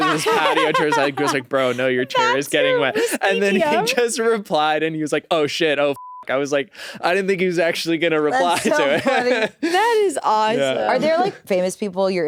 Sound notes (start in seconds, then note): 0.0 laughs; 5.9 beep